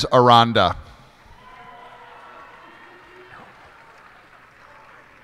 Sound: cheers and applause

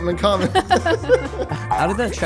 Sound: laughing happily

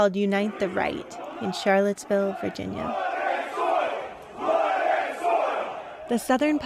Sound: chanting

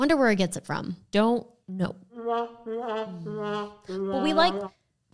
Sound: mocking sound

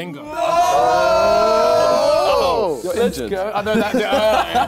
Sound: both cheering

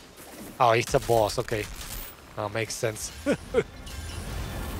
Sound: laughs

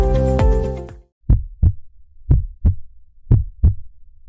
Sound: heart beating

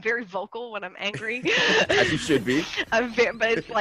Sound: laugh

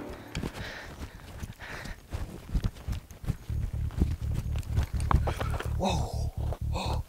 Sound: feet thudding

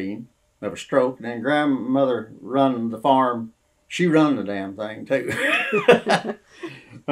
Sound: laughter

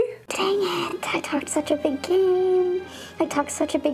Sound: distorted voice

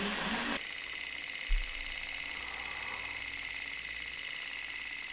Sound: film projector clicking

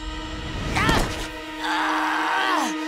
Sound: groaning

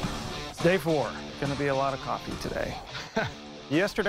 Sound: laughs

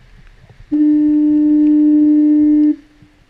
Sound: foghorn

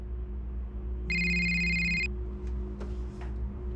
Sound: cell phone rings

